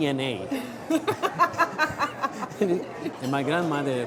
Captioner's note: laughs